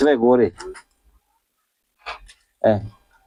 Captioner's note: coughs